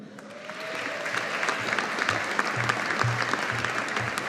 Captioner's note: audience applauding